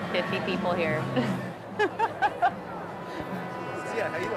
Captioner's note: laughing